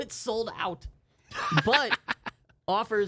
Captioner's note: loudly chuckling